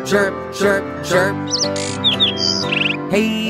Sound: bird chirping

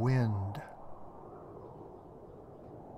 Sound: winds whistling

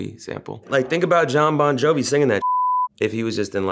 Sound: beep

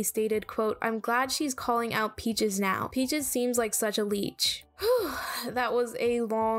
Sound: big sigh

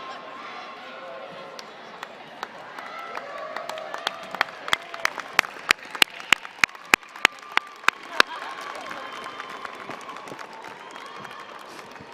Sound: clapping

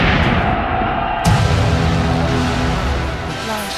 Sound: gunshots; explosion; intense music

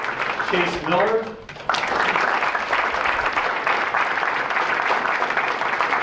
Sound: applause

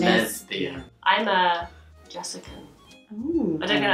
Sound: oohing

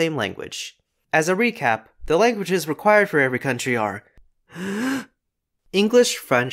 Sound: deep breath

